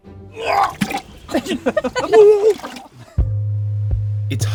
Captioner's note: retching noise followed by laughter